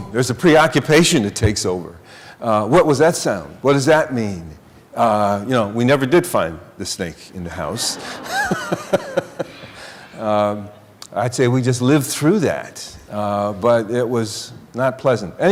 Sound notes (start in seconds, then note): 7.7 laughter